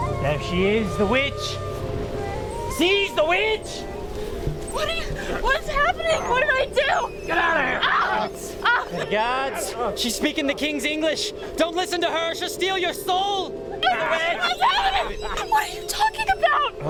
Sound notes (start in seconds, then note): 7.3 voiceover